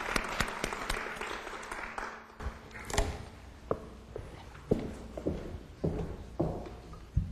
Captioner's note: applause